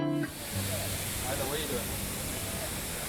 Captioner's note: mist hissing